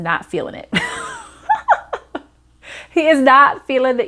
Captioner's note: laughing